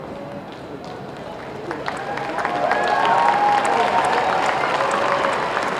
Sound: applause

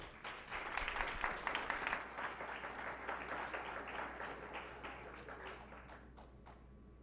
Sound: clapping

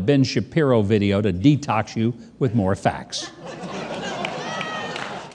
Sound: audience laughing

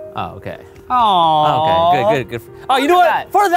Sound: sighing endearingly

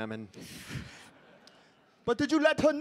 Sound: audience laughing

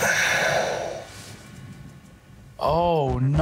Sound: sighing

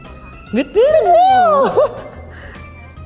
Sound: whistle

